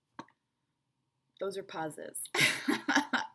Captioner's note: laughter